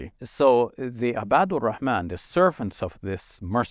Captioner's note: speaking Arabic